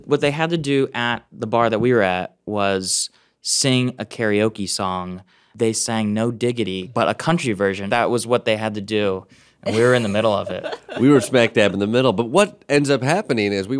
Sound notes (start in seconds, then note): 9.7 laughing